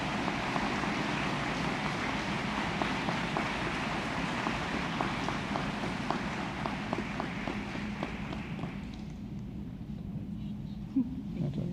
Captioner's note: applause